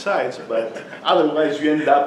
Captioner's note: class laughs